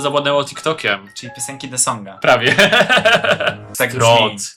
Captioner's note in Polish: śmiech